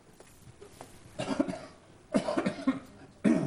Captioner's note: coughs